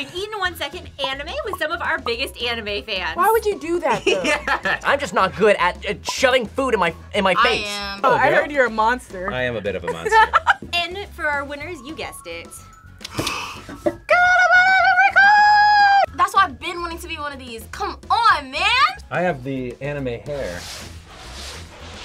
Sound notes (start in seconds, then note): 3.9 laughs; 9.8 laughs; 13.2 gasps; 13.4 in high pitch